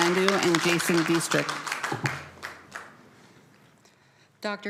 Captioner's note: applause